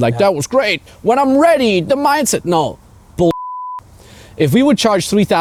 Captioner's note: beeping